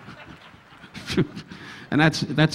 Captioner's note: Don chuckling